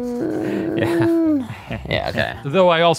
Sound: laughs

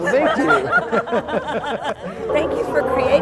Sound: laughing

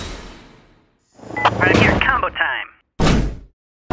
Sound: over comm

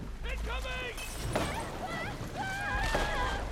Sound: screams

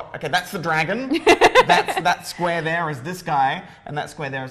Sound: laugh

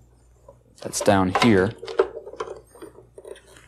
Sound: plastic rubbing

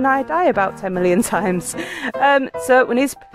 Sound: laughing

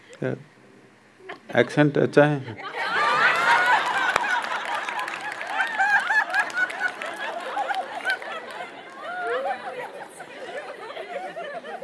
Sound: laughter

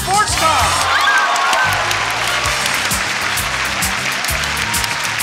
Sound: audience cheering and clapping

